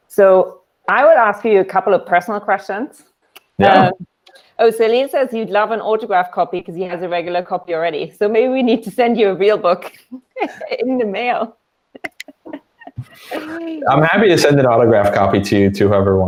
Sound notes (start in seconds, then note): 12.0 laughs